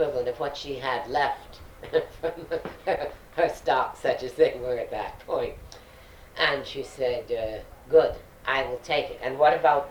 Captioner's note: laughs